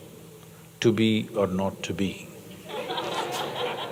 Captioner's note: laughter